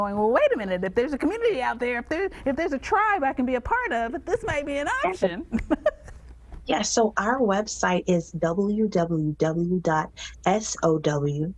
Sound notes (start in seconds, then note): 5.4 laughing